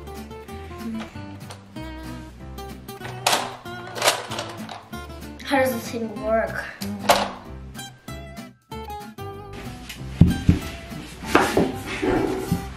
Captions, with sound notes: (soft beats) (machine clunking) - How does this thing work? (soft music)